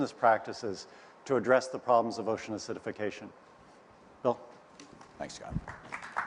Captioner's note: applause